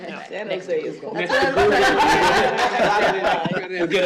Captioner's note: laughter